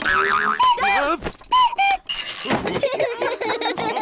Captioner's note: clock cuckoos; all laugh